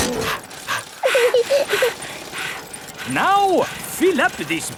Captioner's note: daddy pig panting; mummy pig panting; peppa chuckles; chuckles